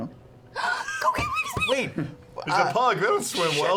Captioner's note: gasps